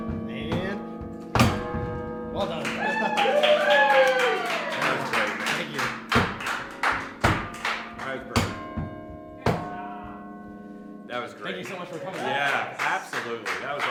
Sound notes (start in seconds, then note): 2.6 cheering; 6.4 chimes Ending